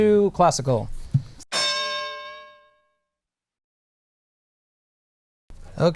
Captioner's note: bell